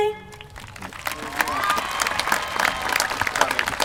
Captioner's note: applause